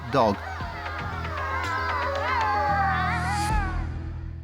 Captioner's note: animals howling